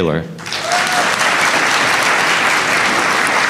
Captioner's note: applause